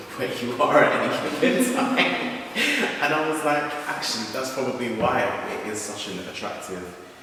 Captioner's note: laughs